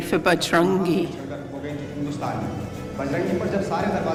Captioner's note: non-english speech